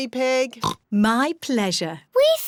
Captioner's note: oinks